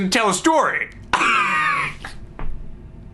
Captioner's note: laughing